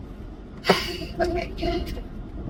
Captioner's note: sighs